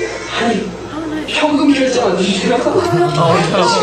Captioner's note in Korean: 웃음